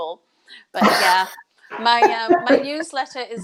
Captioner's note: laughs